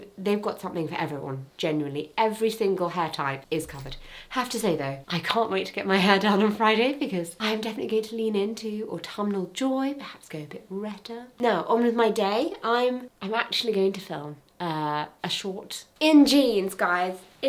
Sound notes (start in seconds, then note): none